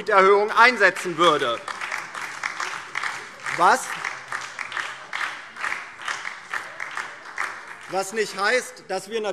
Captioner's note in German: Beifall DIE LINKE und SPD